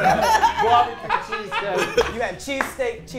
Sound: group laughs

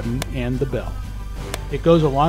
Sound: tap tap

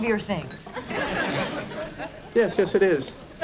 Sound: audience laughing

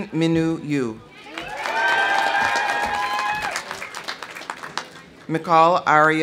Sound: audience cheering; audience applauding

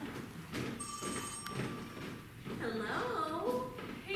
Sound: phone ring

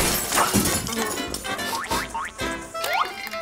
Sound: sniffing

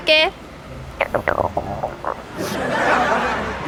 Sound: stomach's growling

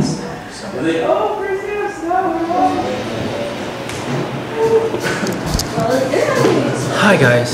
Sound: background chatter and cymbals

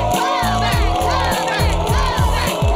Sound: cheers

